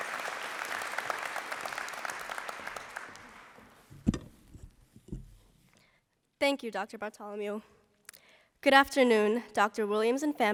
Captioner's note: applause